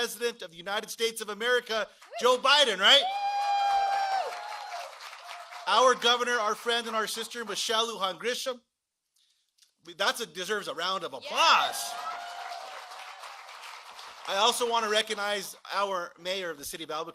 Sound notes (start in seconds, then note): 2.0 cheering and applause